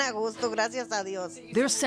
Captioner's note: speaking in Spanish